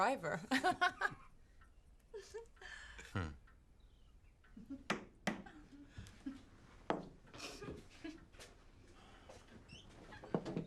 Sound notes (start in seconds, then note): 1.2 laughs; 5.1 Kate giggling; 5.1 hand thuds